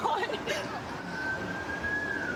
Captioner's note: siren wailing